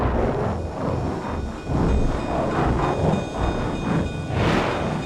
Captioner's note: bell clanging